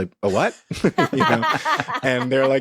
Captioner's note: all laughing